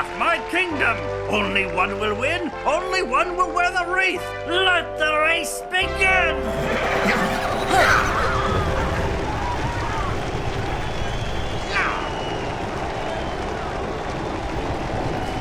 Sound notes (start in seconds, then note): 6.3 נהמות